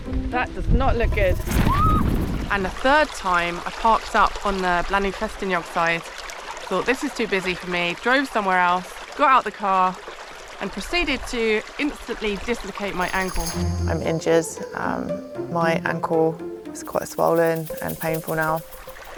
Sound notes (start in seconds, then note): 1.1 wind and screeching